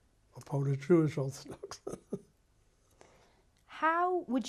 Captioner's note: laughs